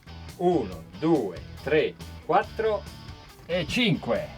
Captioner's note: speaking foreign language